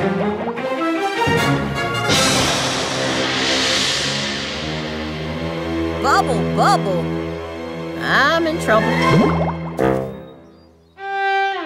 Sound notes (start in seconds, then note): none